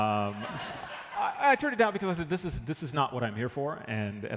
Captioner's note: laughter